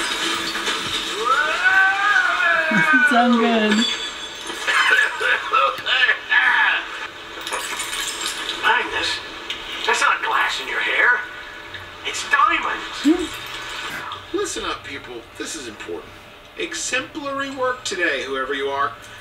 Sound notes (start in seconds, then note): 0.0 glass breaks; 4.9 coughing